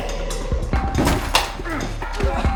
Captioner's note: clanking; grunting